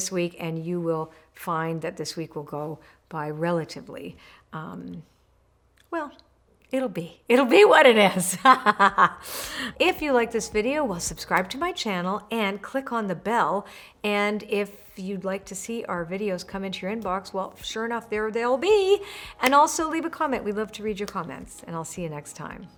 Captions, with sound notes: and you will find that this week will go by relatively. Well, it'll be, it'll be what it is. (laughs loudly) If you liked this video, well, subscribe to my channel, and click on the bell. And if you'd like to see our videos come into your inbox, well, sure enough, there they'll be. And also leave a comment, we love to read your comments, and I'll see you next time.